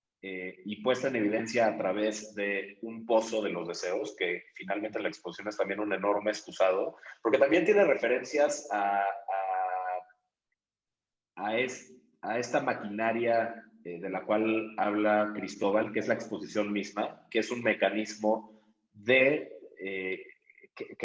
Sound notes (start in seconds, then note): 8.9 pause